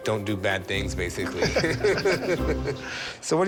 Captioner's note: laughter